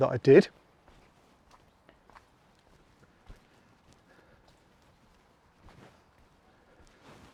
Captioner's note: footsteps